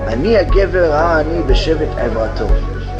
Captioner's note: hebrew